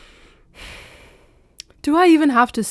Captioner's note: sigh